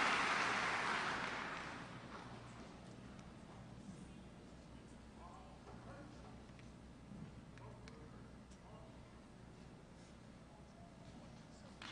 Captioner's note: applause